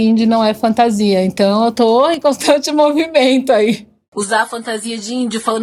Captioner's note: laughs